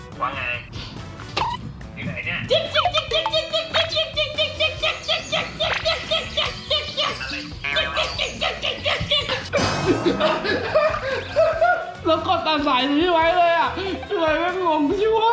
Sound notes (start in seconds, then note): 3.7 monkey sound; 8.5 monkey Sound